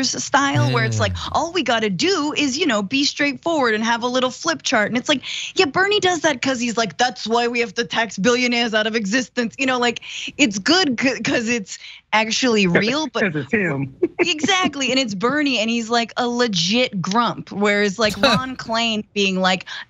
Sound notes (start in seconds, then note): 14.0 laugh